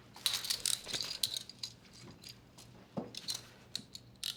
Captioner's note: shackles clanging